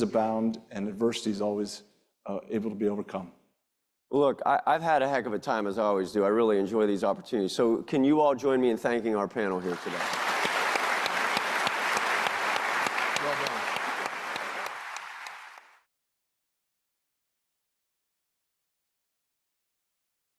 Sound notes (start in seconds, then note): 9.6 audience clapping